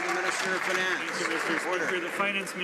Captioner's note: some Applause